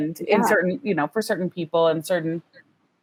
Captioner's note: laughs